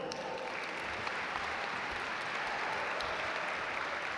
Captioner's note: audience applaud